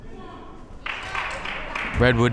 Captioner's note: crowd members clapping